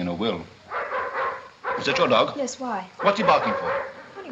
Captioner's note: towser barks